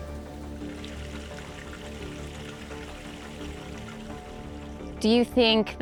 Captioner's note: water flowing